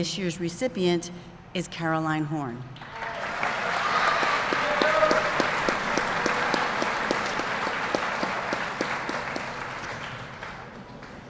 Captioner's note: applause